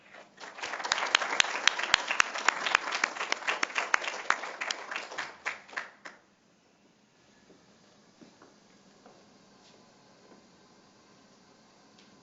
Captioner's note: applause